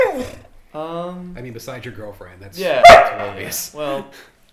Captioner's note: Emma barks